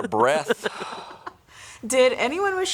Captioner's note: chuckling; sighing